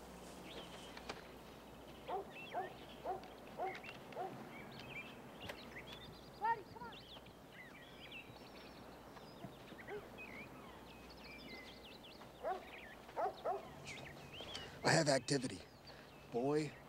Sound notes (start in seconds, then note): 2.0 dog barking